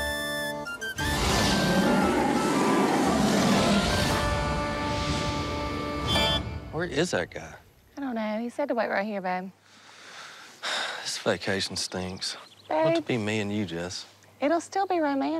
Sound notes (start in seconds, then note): 1.0 muted roar